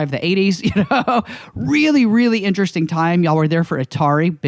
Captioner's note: laughs